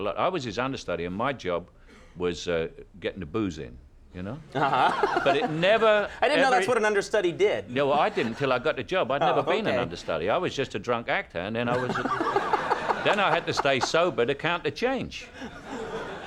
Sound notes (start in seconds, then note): 4.5 laughing; 11.7 laughter